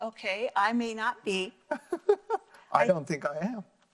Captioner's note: laughing